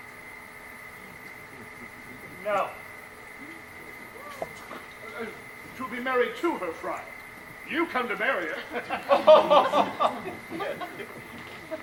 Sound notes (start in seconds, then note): 8.5 Friar laughs